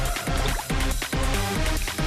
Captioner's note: SFX: Tablet fizzing in glass of water